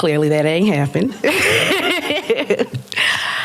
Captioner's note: laughter